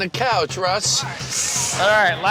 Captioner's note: winces